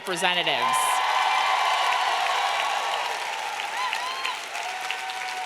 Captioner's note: audience clapping and cheering